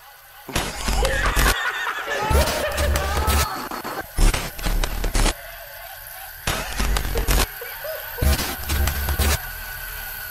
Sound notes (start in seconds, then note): 0.1 Joker noises; 6.3 the Joker wheezes/laughs